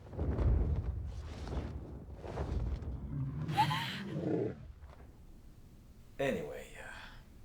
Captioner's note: Connie sobs; dragon growls